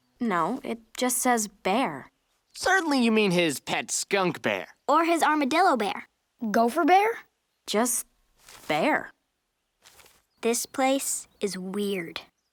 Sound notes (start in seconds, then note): none